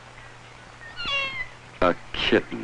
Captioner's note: kittens mews